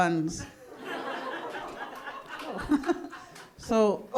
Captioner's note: audience laughing